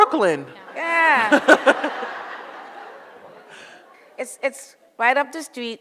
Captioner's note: audience laughs